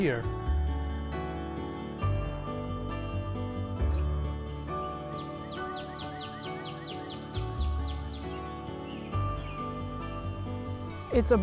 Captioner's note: light music continues; birds chirping